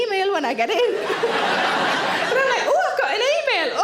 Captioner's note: audience laughing